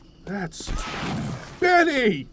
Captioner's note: Benny's death scream